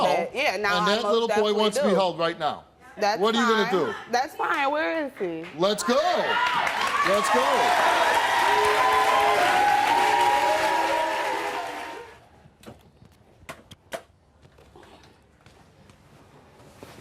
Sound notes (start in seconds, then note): 6.2 audience cheering; 6.3 audience clapping